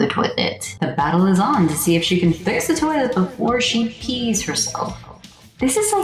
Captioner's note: announcer echo